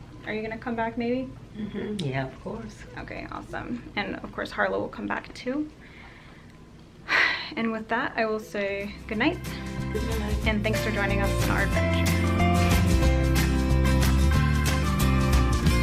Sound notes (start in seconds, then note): 6.3 sighs; 12.5 upbeat guitar music